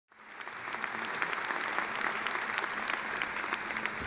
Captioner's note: audience applause